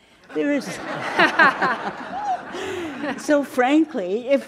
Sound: all laughing

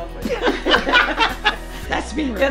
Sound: laughing

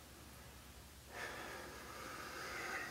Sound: sighs

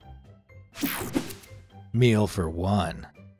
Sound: image whooshing

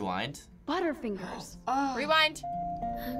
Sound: gasps

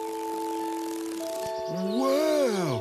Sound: fluttering

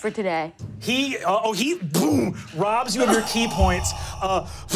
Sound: whooshes

